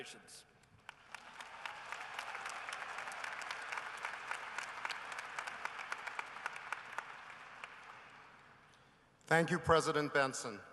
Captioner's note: cheering and applause